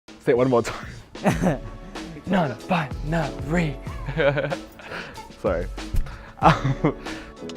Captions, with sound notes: Say it one more time [laughs] Non-bi-na-ry [laughs] Sorry [laughs]